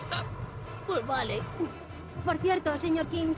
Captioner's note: moan